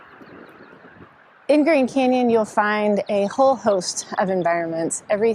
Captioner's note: birds chirp